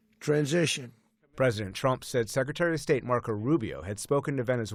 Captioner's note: voice-over